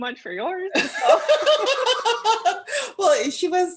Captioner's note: laughter